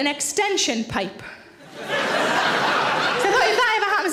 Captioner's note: audience laughing